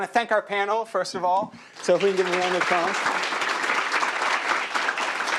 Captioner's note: applause